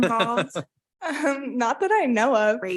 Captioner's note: chuckles